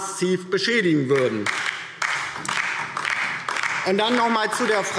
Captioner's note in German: Beifall DIE LINKE